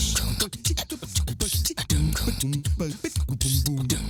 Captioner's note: man beatboxing